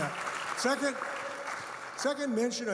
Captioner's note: audience clapping